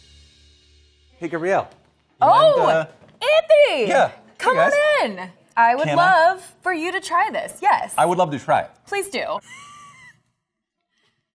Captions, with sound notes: - Hey Gabrielle. - Oh, Andy! - Yeah. - Hey guys. - Come on in! I would love for you to try this, yes. - I would love to try it. - Please do. [laughing].